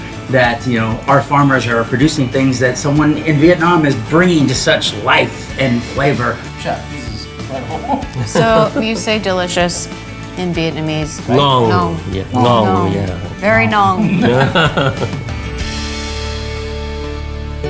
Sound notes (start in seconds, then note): 6.9 laughing; 15.4 upbeat music